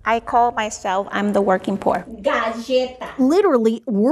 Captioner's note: speaks in foreign language